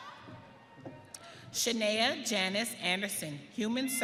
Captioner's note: audience cheering